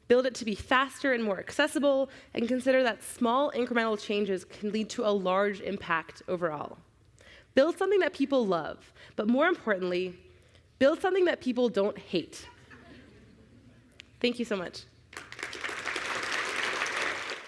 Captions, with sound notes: Build it to be faster and more accessible, and consider that small incremental changes can lead to a large impact overall. Build something that people love, but more importantly, build something that people don't hate. [LAUGHTER] Thank you so much. [APPLAUSE]